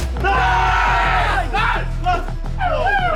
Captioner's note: team cheering